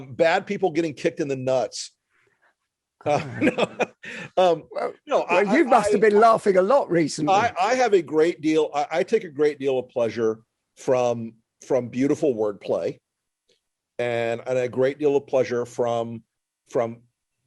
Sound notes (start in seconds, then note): 3.0 laughing